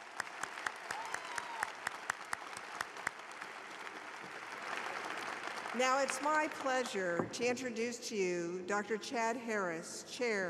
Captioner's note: applause